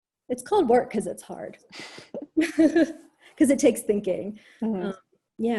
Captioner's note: laughs